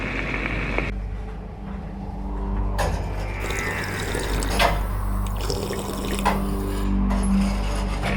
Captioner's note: drinking; metal grinding